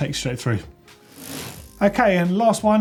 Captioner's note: whoosh